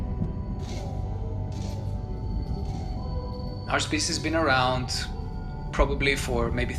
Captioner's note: soundbite of animalistic roaring